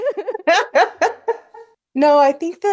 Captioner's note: laugh